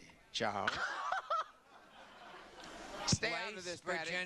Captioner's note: laughter